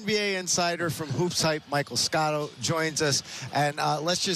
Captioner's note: laughter